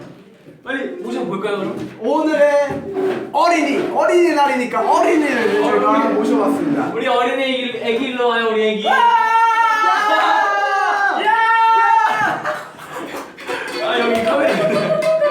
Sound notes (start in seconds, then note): 10.6 applause